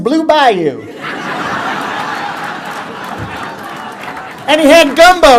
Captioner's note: laughter